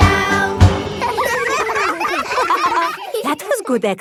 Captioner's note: all giggling